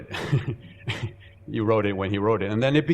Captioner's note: chuckling